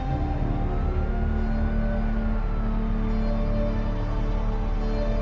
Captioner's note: police sirens